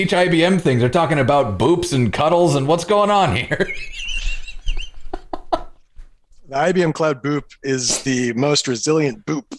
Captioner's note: laughter